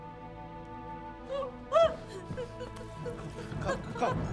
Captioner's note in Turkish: Ağlama sesi